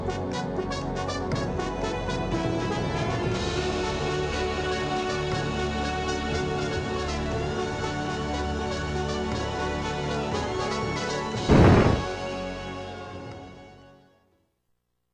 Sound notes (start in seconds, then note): 11.5 music fades; 11.5 clonk